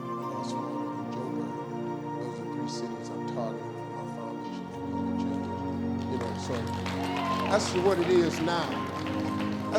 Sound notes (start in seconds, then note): 5.3 audience claps and cheers